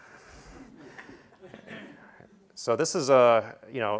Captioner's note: laugh